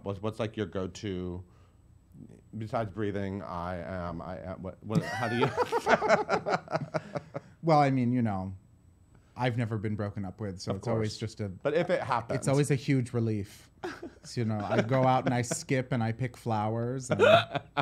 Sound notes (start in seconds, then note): 4.9 laughter